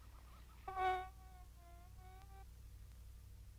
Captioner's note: soft buzzing